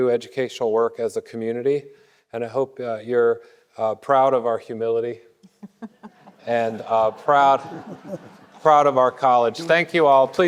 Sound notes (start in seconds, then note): 5.4 laughing; 5.8 audience laughing